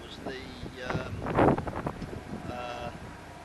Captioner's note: another gust of wind - sound